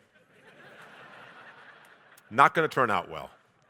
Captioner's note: audience laughing